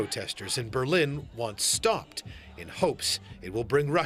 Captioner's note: crowd noise